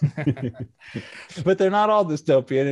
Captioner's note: both laughing